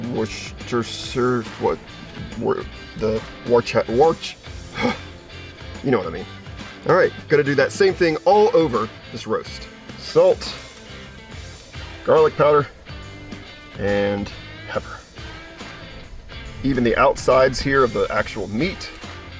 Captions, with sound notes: woischursyurwhat, Wortheworchiworch. (exhaling) You know what I mean. All right, gotta do that same thing all over this roast. Salt, garlic powder, and pepper. Even the outsides here of the actual meat.